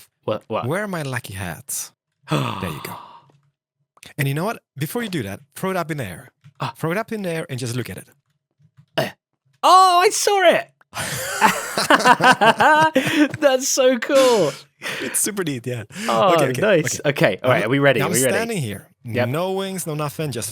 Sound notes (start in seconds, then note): 2.3 gasps; 10.9 BOTH laugh